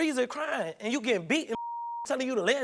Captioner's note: beep